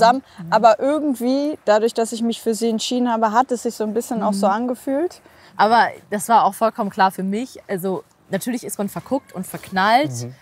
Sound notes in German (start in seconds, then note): none